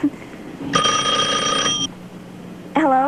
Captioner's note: telephone Ring